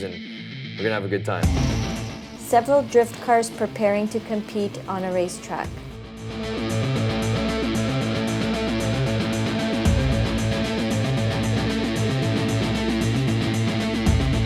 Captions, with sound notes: and we're going to have a good time. (fast-paced music) (engines rumble)